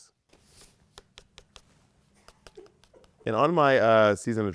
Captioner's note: Bob's nail tapping